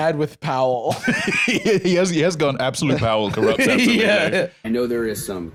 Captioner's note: laughs